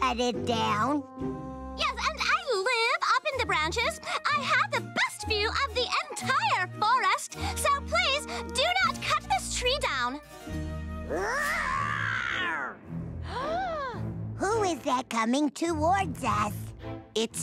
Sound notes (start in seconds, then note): 13.4 gasp